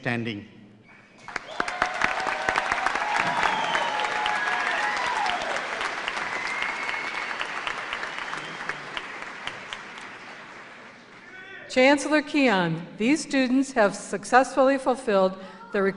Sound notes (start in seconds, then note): 1.1 applause